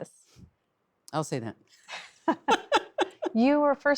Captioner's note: laughs